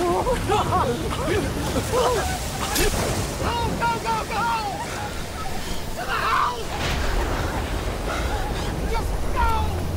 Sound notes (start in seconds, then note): 0.1 more screams; 2.9 thunder clap; 6.7 huge thunder clap